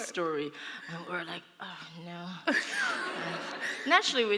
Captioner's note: laughter